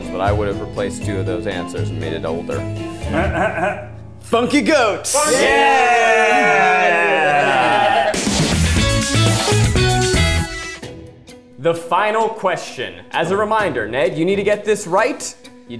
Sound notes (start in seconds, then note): 5.0 all cheer; 8.4 bright guitar transition